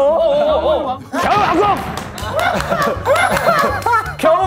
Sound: exploding

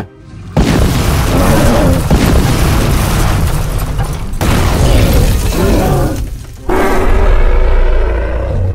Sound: crash Sounds

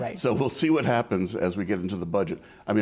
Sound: chuckles

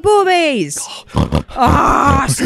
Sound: snorts like a pig

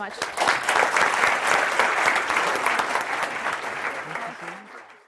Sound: audience applause

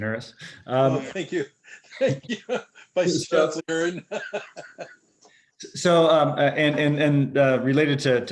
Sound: laughter

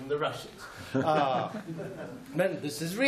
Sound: laughter

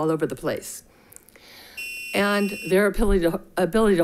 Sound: buzzer chimes

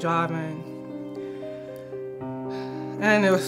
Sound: deep sigh

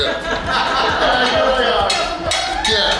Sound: hahaha

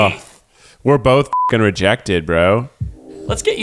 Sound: beep

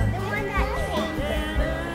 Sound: mumbling

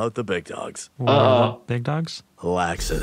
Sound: chuckles

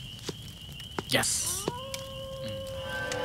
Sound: fox howling

